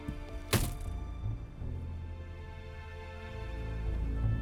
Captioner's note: door slams